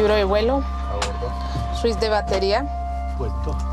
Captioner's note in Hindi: स्पैनिश बोलते हुए